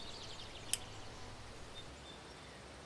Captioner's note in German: Schneidegeräusche